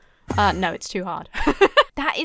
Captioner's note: laughs